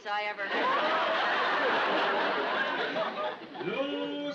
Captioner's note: audience laughs